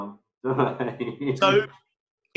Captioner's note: laughs